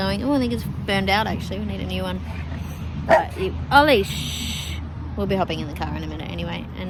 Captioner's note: dog barks